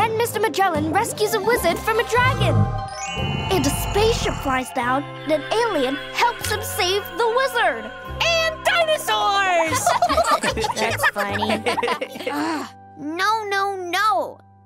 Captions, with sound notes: - Then Mr. Magellan rescues a wizard from a dragon. - And a spaceship flies down and an alien helps him save the wizard. - And dinosaurs! (students laughing) - That's funny. - No, no, no!